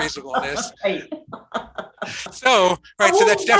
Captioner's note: laughing